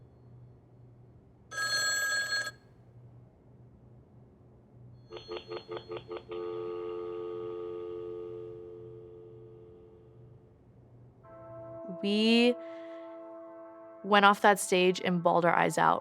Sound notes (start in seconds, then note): 1.5 phone rings; 4.9 line busy